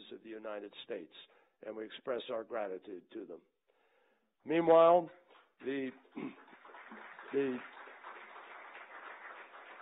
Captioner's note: applause